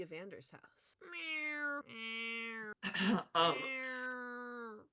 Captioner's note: imitating Cats meowing